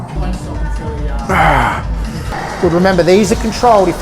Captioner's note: grunting